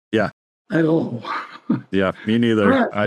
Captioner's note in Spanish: risas